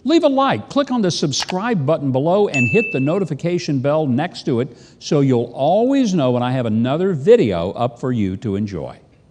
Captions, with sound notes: Leave a like. Click on the subscribe (computer mouse click) button below and (bell dings) hit the notification bell next to it, So you'll always know when I have another video up for you to enjoy.